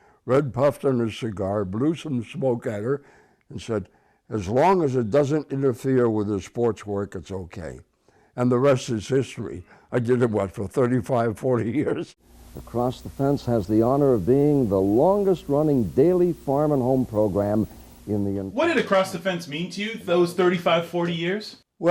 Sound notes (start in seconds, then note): 11.8 chuckling